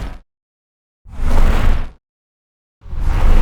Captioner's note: whoosh; whooshing